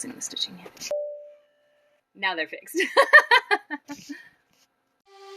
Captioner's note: chuckle